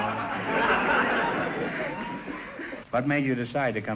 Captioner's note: audience laughter